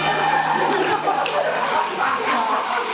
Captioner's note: audience laughs